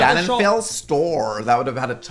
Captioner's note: imitates American accent